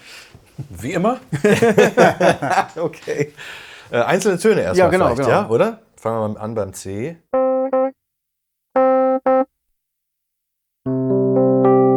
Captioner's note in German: gelächter